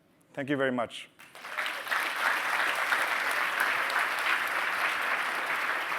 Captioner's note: applause